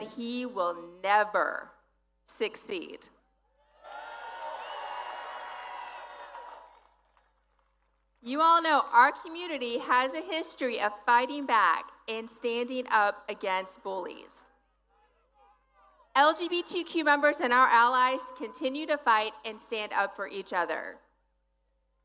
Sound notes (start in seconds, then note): 6.0 applause